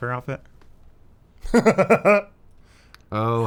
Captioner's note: guffaws